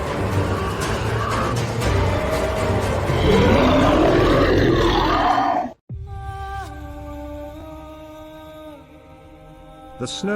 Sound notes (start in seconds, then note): 1.9 loud Roar